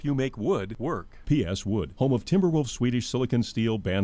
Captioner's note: voiceover